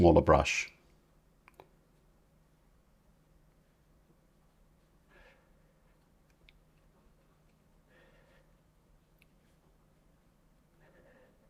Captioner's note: silence